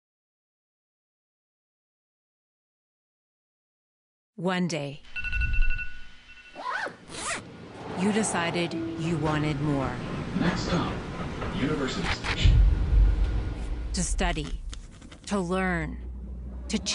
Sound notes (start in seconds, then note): 5.0 alarm rings; 6.6 zippers zip